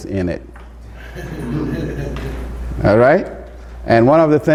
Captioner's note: audience laughs